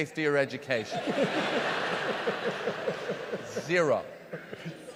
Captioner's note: audience laughs